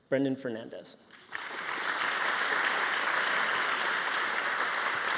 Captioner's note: applause